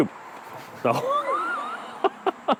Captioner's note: laughs